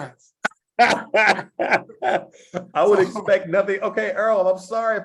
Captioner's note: laugh